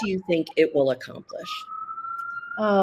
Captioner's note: siren wailing